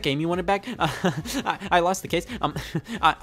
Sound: chuckles

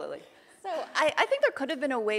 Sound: laughing

